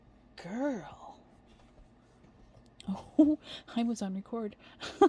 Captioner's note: giggle